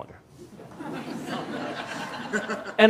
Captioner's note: laughter